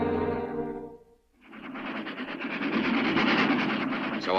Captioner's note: train chugs